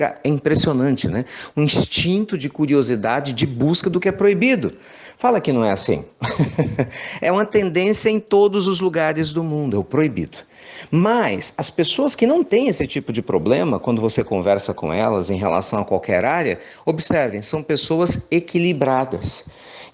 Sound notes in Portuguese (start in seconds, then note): 6.2 risos